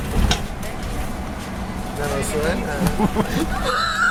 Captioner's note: laughs